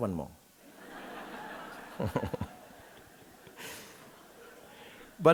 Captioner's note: audience laughing